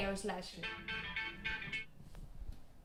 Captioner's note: cell phone rings